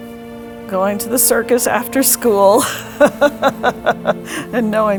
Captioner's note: chuckles